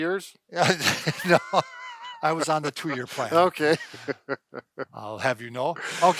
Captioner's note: laughs